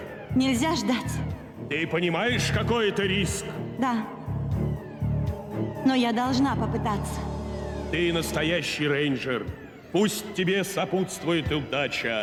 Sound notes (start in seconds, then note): none